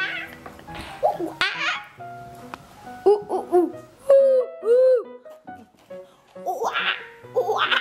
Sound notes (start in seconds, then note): 1.0 hoots like a monkey; 6.3 hoots